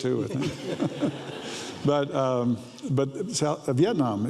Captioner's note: audience laughs